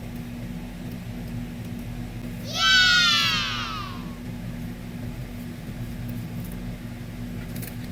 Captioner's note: screaming